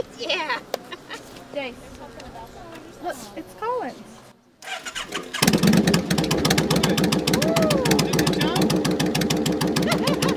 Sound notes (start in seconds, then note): 0.8 laughing; 4.6 motorcycle engine starting